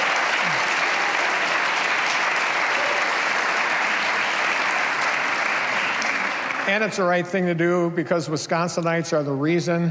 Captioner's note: cheers and applause